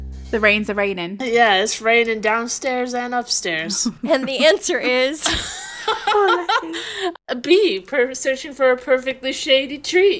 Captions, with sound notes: The rain's a-rainin'. - Yeah, it's raining downstairs and upstairs. - And the answer is. (laughing) - Oh, Lechi. - B, searching for a perfectly shady tree.